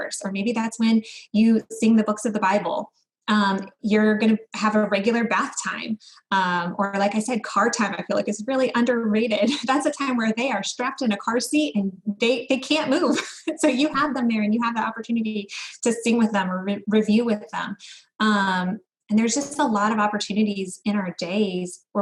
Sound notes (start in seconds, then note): 13.1 laughs